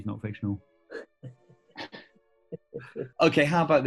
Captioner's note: chuckling